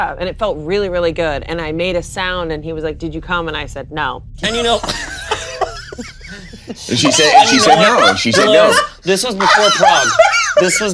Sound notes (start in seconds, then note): 4.5 everyone laughing; 8.4 laughing louder